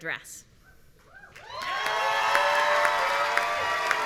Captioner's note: cheering